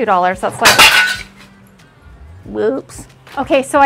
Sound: glass breaking

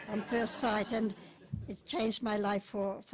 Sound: audience laughs

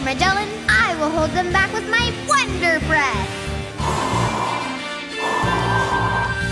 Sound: blowing

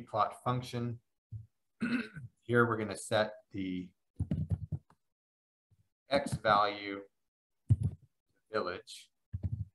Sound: cough

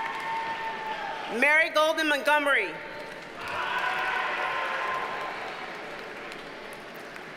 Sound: audience cheers and applauds

